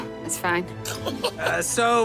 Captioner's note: chuckles